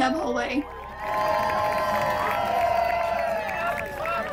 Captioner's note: crowd cheers